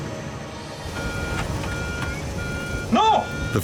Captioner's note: alarm beeping